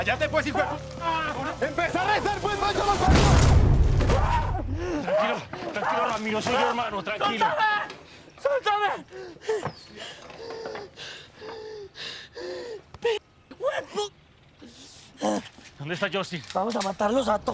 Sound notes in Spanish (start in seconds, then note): 2.7 Sollozos; 3.0 Disparo